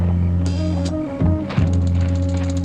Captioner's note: gun shot